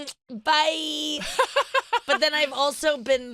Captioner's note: laughs